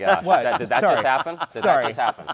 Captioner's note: laughing